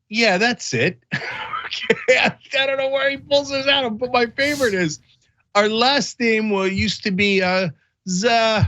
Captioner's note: laugh